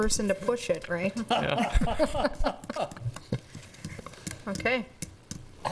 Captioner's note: laughing